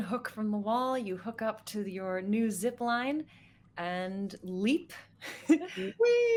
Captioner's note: laughs